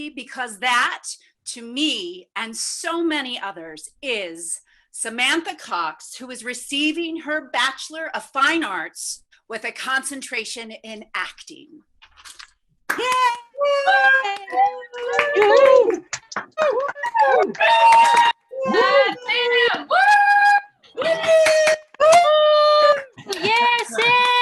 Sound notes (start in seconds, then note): 13.6 attendees cheering; 14.8 clapping